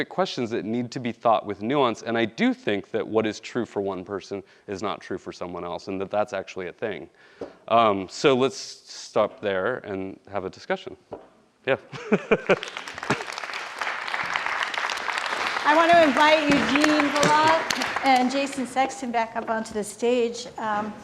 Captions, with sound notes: questions that need to be thought with nuance and I do think that what is true for one person is not true for someone else. And that that's actually a thing. So let's stop there and have a discussion. Yeah. (man laughing) (audience applauding) - I want to invite Eugene Volokh and Jason Sexton back up onto the stage.